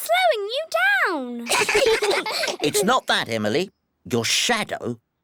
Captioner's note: all giggle